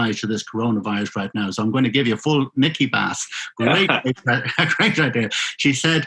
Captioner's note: laughing